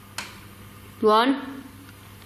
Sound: tap

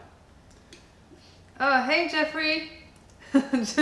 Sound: laughter

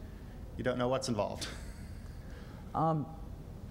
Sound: laughs

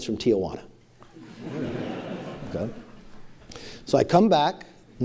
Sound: laughter

